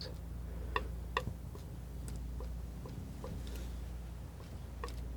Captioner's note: tapping